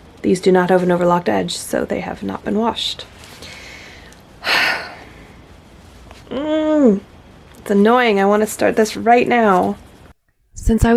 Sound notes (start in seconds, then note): 4.4 sigh; 6.3 irritated hum